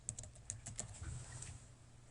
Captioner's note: typing